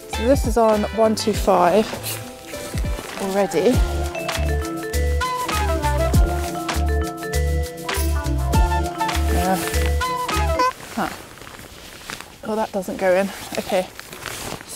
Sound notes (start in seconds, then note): 10.1 clown honk